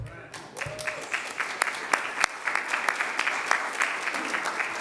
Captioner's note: audience applauding